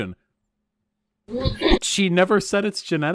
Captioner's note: clears throat